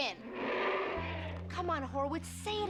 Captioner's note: King Kong growling